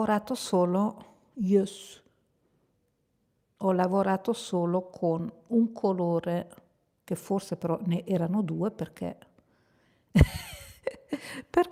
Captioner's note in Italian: risate